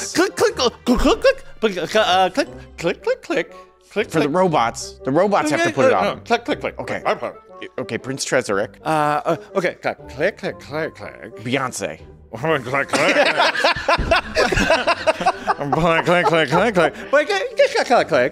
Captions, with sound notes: Click, click, click, click, click, click, click, click. For the robots. The robots have to put it on them. Click, click, click. OK, Prince Chisarick. OK. Click, click, click, click. Beyonce. Click, click, click. [starts belting in laughter] Click, click, click, click. Click, click, click.